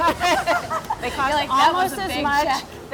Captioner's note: both chuckling